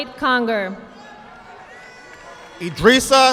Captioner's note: audience clapping